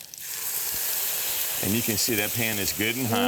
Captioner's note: sizzling